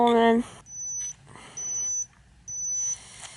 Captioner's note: beeping